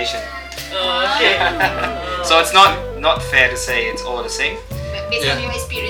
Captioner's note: laugh